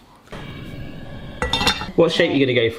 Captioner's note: gas flame hissing